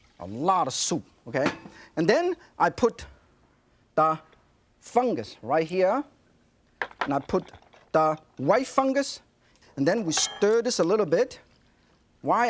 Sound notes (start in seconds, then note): none